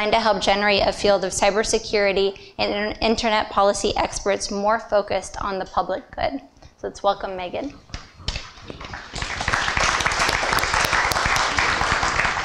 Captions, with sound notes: to help generate a field of cybersecurity and internet policy experts more focused on the public good. So let's welcome, Megan. [APPLAUSE]